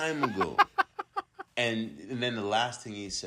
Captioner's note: laughs